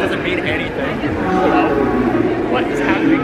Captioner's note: ships announcement plays